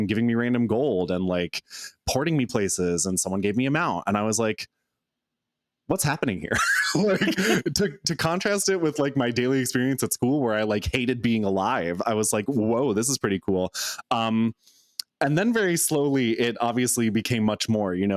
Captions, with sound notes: giving me random gold and porting me places and someone gave me a mount. And I was like, "What's happening here?" (laughs) To contrast it with my daily experience at school where I hated being alive, I was like, "Whoa, this is pretty cool." And then very slowly, it obviously became much more.